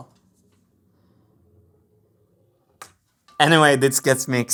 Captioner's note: marble rolling